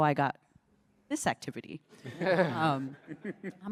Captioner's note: laughter